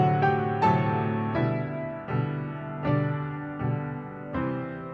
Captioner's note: none